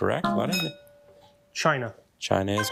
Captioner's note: bell dinging